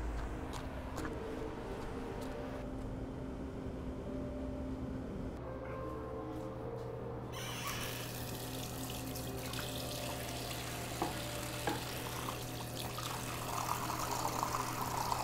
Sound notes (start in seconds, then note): 2.7 dramatic music; 7.4 knob squealing; 7.8 water trickling